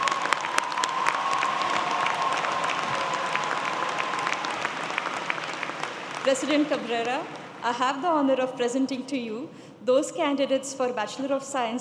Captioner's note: applause